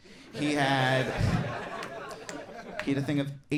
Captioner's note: audience laughing